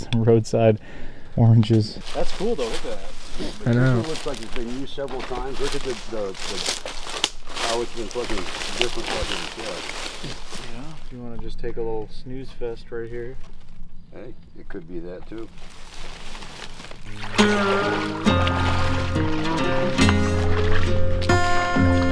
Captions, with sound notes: I know a spot to get some roadside oranges. - That's cool though look at that. - I know. - Looks like it's been used several times. Look at the how it's been different. - Yeah you wanna just take a little snooze fest right here. - Hey, it could be that too. (water splashing) (calm music)